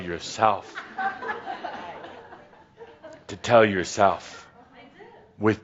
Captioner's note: a few chuckles